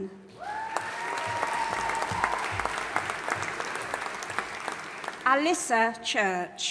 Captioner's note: audience applauding and cheering